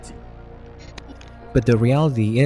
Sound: glitch sound effects

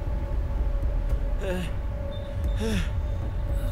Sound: Shorya moaning

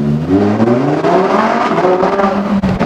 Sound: engine roaring

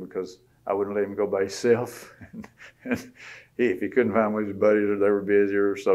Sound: laughs

